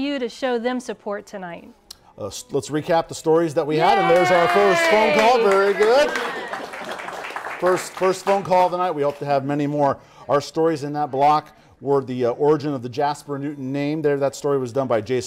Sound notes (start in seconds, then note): 3.8 applause